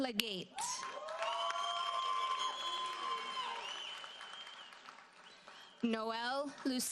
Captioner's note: audience cheers and applauds